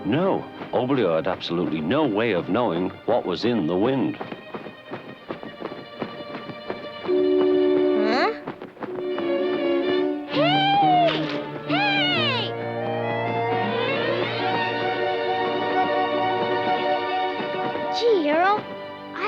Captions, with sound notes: No, Oblio had absolutely no way of knowing what was in the wind. (wings flapping) - Huh? Hey! Hey! (suspenseful orchestral music) Gee, Arrow.